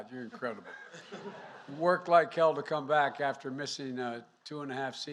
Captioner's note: laughter